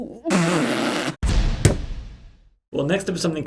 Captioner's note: hammering nail